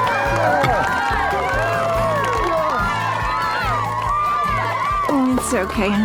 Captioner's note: cheering, applause